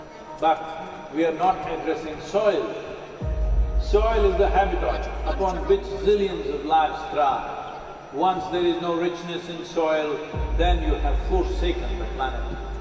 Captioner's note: audio disturbance